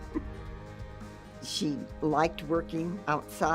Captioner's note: giggling